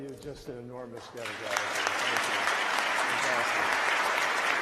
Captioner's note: applause